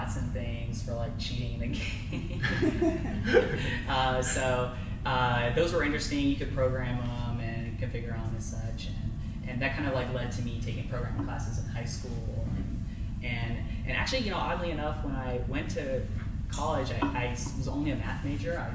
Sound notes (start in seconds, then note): 2.2 crowd laughs